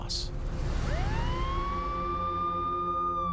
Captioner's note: emergency siren